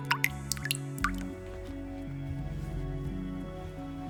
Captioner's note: faucet dripping